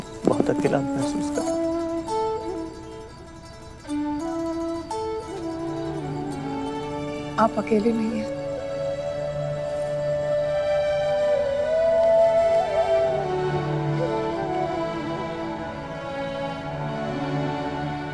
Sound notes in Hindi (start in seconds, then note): none